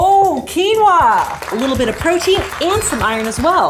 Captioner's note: audience applauding